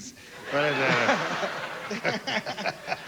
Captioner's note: mumbling